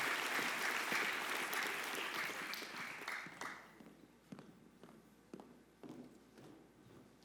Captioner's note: applause